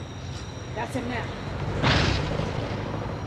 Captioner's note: tire blows